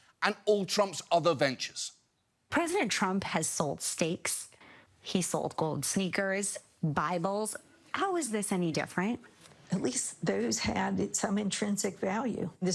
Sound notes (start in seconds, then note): none